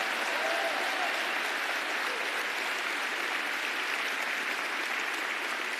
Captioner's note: applause